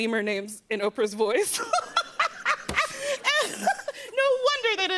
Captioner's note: both laugh